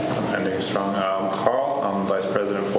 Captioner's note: faintly speaking